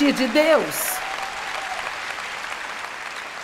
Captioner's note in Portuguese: audiência aplaude